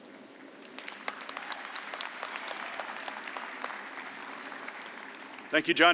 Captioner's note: applause